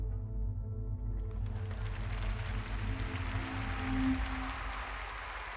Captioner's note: applause